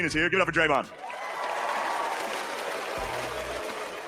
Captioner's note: audience applauding